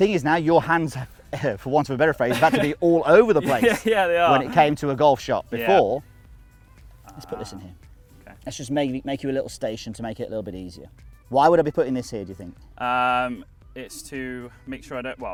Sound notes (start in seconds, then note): 2.2 laughs